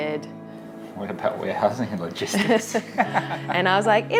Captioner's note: laughs